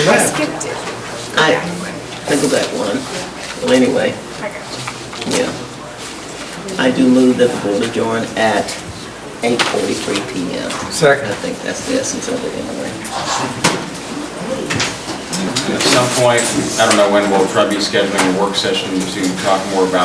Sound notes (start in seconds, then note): 14.6 gavel pounds